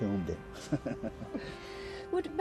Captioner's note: laughing